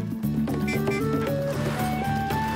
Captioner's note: honking